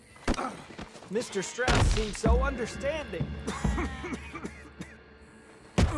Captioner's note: coughs